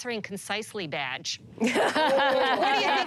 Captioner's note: laughter